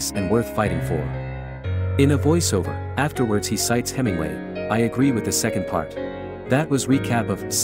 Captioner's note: in a voiceover